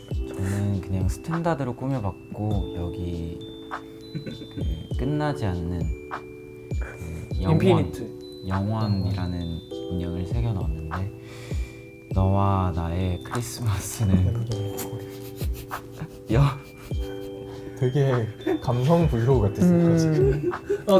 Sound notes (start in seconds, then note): 14.0 laugh